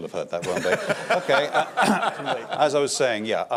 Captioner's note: laughter